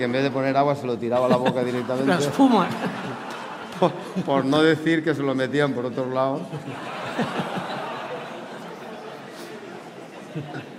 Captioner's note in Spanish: Risas